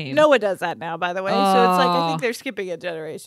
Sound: none

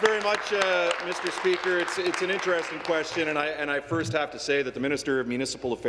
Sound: applause

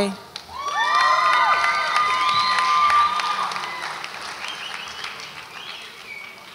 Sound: audience applauds and cheers

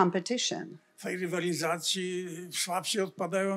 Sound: foreign language

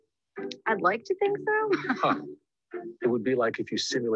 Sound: laughs

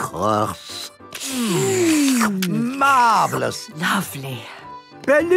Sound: slurping

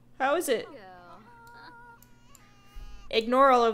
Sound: infant crying

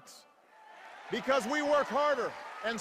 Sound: cheers

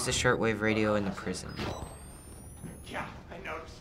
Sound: camera powers up

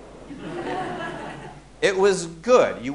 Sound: audience laughing

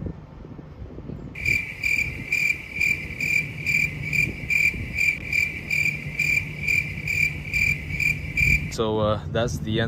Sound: cricket noises

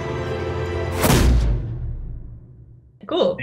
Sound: bang

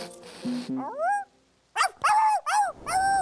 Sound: barking

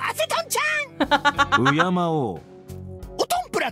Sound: chuckles

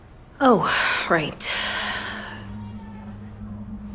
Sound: sigh

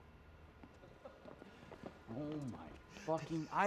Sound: Marshall laughing; Phillip laughing

